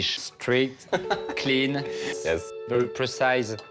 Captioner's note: laughing